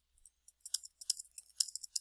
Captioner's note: typing